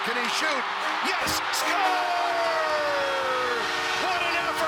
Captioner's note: crowd cheering; goal Horn